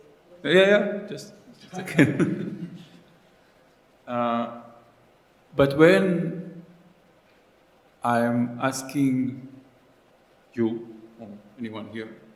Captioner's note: laughs